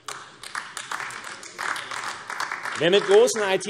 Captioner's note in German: Beifall AfD